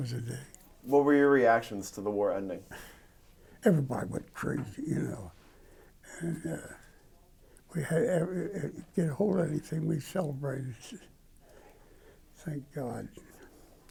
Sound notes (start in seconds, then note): 3.2 laugh; 7.5 stutter